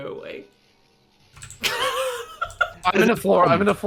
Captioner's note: laughter